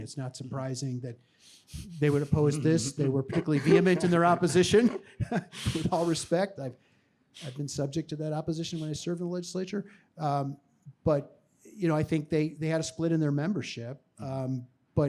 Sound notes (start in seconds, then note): 5.3 chuckles